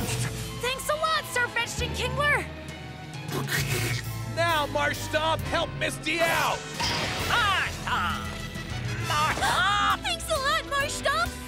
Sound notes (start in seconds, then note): 3.4 Kingler chitters